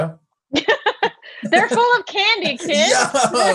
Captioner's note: laughs